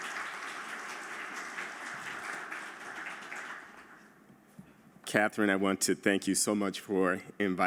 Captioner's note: applause